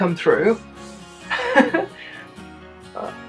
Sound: laughter

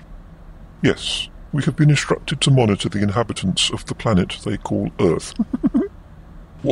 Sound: laughs

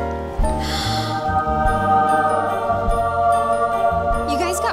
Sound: gasps

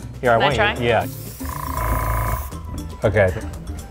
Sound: air blowing

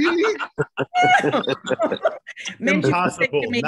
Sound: laughter

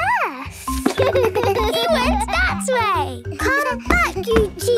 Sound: giggles

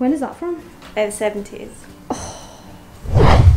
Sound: gasps

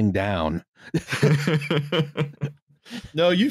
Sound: laughter

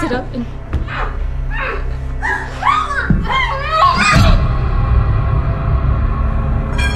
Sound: lady in background continues screaming

